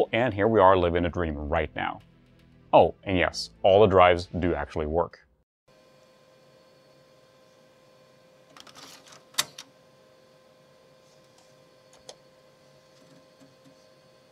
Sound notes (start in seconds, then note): 8.3 click